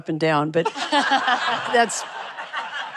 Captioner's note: laughter